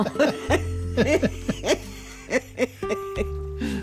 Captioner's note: laughing